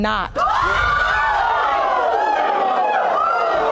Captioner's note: audience yells